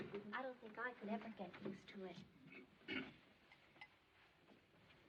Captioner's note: clears Throat